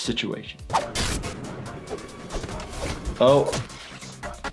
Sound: active music; blade slashing

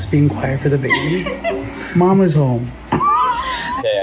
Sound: laughs

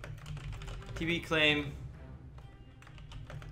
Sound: typing

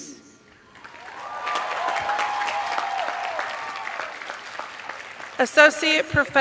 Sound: cheers and applause

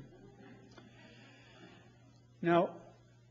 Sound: laughter

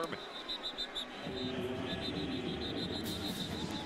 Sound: whistle

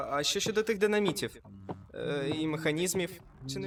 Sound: hums

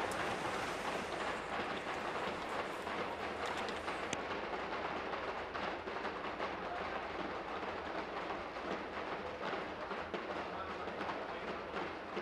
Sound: tapping on desks

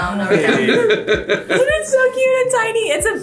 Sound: dad laughing

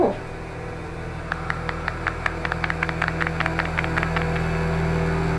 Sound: clapping

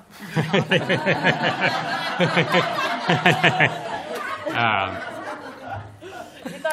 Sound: laughter

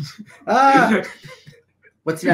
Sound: chuckling

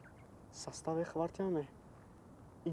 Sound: in Tajik

